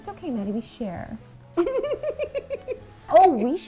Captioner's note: laughing